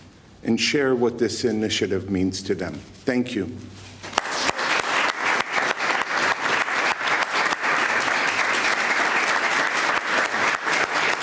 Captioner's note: applause